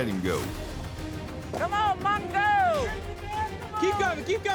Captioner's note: cowboys shout encouragement